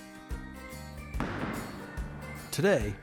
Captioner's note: ball strikes